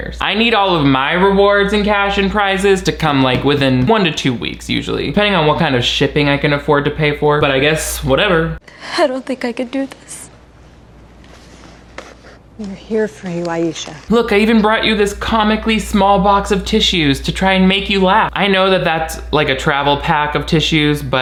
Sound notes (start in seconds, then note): none